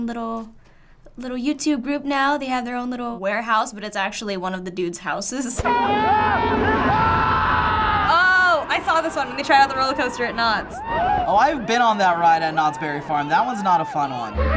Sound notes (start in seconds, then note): 5.7 Try Guys screaming